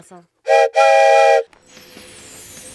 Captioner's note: train whistle noise